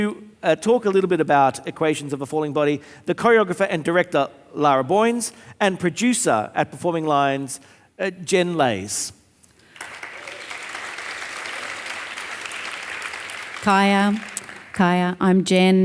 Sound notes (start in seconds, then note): 9.6 audience applauding